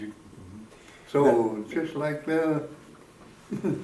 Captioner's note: chuckles